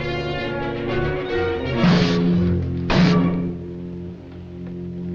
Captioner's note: electricity buzzing